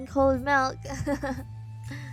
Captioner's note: laughs